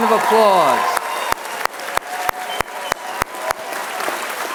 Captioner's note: applause